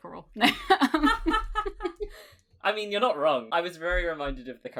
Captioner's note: laughs